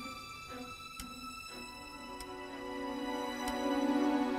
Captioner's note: clock ticking